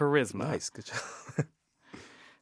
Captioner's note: laughter